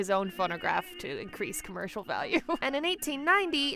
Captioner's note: laughs